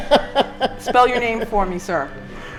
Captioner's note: laughing